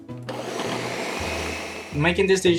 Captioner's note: blender whirs